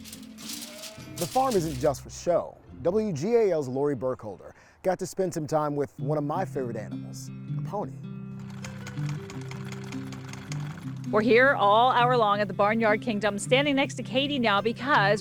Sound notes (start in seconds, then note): 0.0 paper crumpling; 8.4 sewing machine clicks